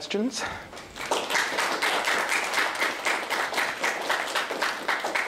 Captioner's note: applause